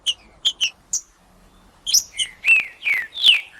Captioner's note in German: trinca ferro cantando